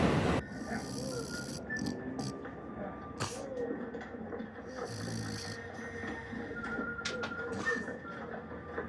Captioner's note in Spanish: Ronquidos